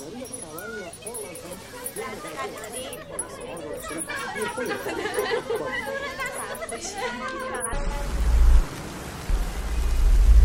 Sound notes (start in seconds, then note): 0.0 people laughing, indistinct chatter; 8.6 street noises